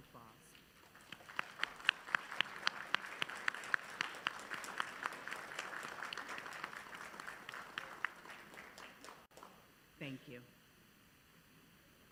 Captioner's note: applause